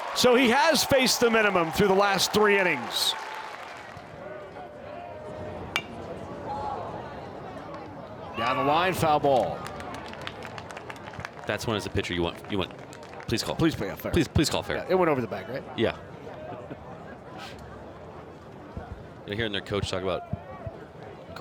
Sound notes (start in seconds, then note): 5.8 bat dings